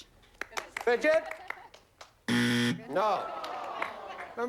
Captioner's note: buzzer